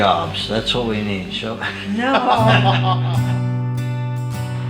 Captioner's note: all laugh